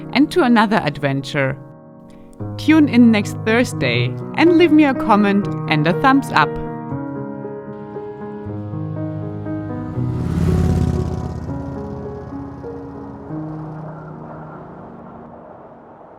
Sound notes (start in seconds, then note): 7.1 tranquil music; 10.8 motorcycle roaring; 10.8 wind blowing